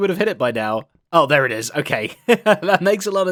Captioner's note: laughs